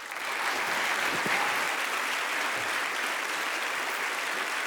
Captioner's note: audience applauding